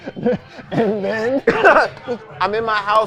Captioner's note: laughing